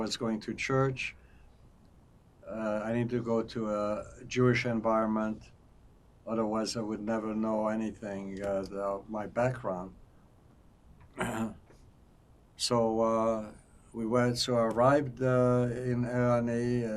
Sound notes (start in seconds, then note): 11.1 clears throat